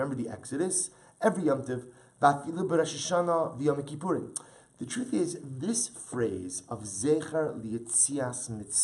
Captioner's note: Hebrew